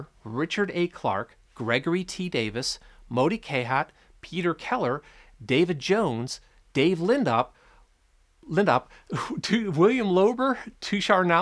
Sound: chuckels

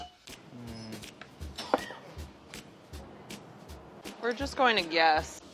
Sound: hums thoughtfully

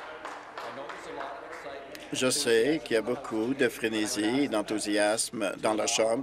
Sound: some applause

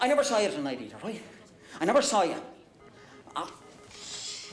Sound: dial tone beeping

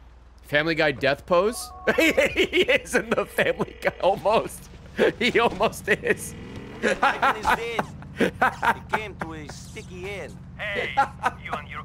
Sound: laughs

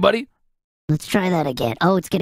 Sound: higher-pitched

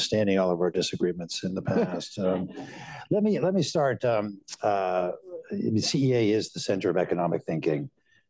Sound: laughter

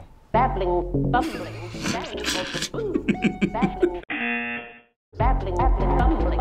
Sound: buzzer

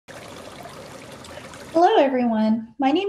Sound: water bubbling

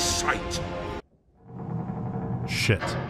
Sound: door closing

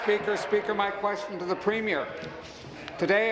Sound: applause

